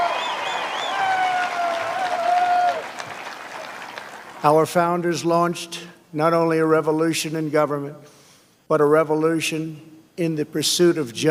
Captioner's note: applause